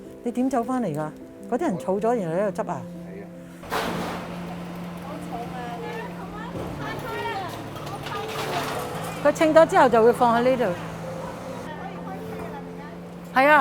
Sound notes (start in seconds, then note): 3.8 sound of pushcart wheels on pavement